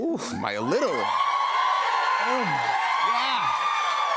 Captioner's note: cheers and applause